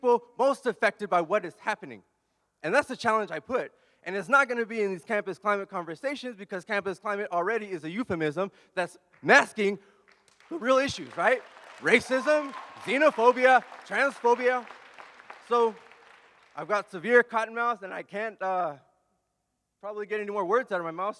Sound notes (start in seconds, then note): 10.1 audience cheers and applauds